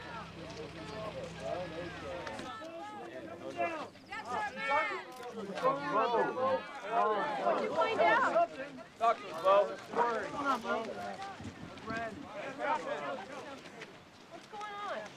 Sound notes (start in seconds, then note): 4.6 crowd mumbling